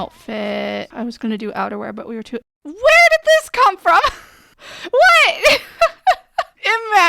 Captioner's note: laughing